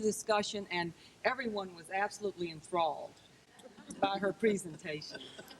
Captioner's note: crowd laughs